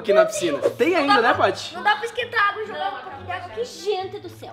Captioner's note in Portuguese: Risos